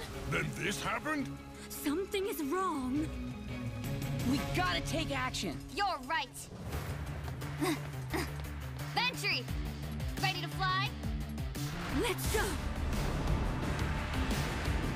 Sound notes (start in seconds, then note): 7.5 panting; 12.9 epic music